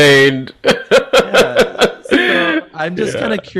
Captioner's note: laughs